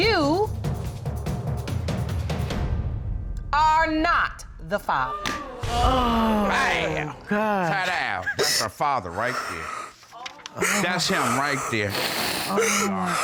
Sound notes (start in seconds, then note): 5.4 audience exclaims; 10.4 sobbing